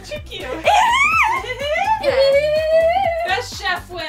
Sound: silly noises

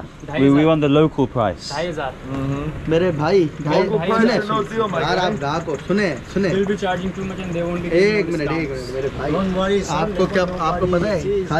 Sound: speaking in Urdu

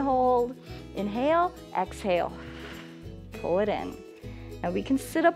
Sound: exhales

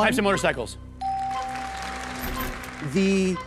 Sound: bell dings

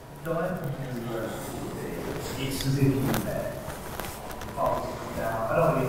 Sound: people's voices echoing on video

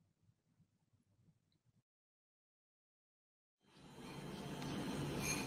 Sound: man speaking in Chinese

